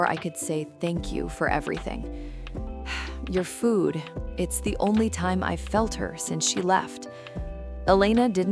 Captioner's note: sigh